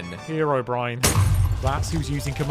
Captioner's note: glass explodes